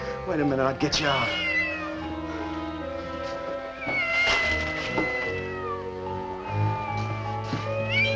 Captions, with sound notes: WAIT A MINUTE. I'LL GET YOU OUT. [ Cat Meows ]